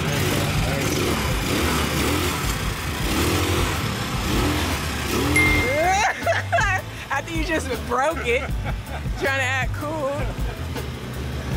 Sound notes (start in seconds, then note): 3.7 motor revving